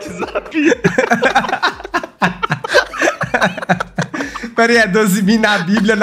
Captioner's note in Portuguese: risos